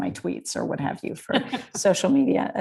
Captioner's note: laughing